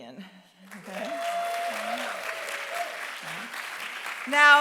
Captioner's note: applause